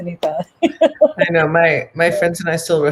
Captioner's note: laughs